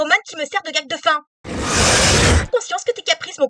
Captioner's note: growl